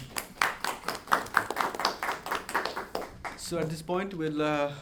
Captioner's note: audience applauds